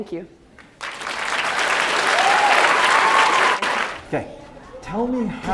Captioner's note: applause